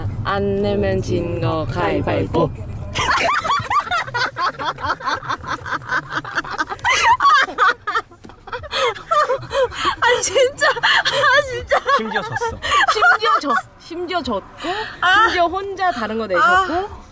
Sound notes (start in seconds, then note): 5.8 laughing